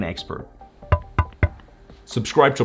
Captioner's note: knocking on screen